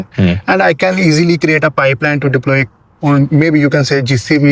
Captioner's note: sound of clearing throat